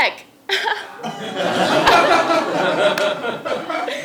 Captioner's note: laugh